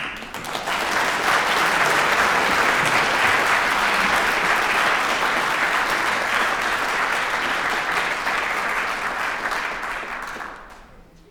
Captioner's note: applause